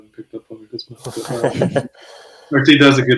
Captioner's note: laughs